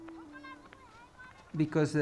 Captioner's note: children chatter